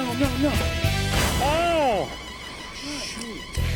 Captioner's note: slab bangs